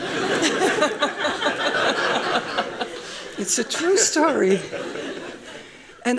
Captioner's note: laughing; laughs